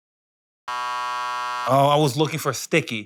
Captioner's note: buzzer